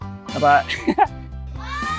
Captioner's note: chuckles